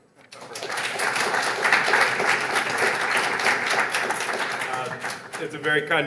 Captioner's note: applause